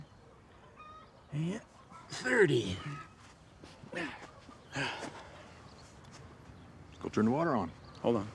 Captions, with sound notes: and 30. (Isaac groans) - Let's go turn the water on.